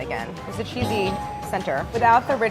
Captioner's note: bell dinging